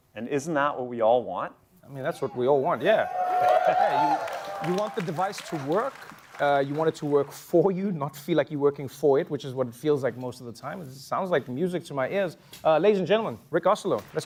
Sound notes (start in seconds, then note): 2.9 cheering